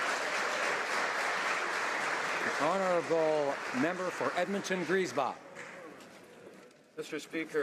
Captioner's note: applause